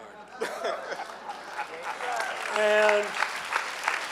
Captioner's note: clapping